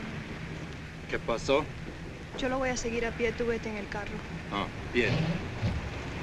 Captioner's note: speaking spanish